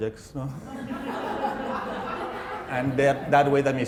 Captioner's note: laughter